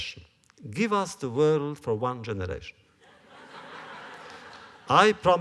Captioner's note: laughter